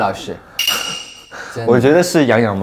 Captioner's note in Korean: 쓴웃음